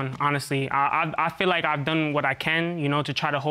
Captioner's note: stuttering